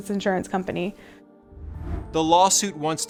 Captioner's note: air whooshing